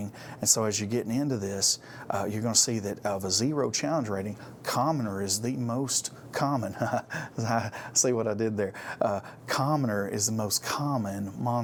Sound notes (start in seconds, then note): 6.7 laughs